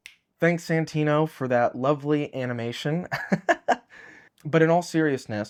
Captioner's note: chuckling